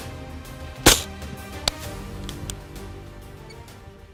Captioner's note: gunshot